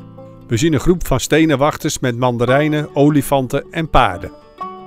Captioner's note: voiceover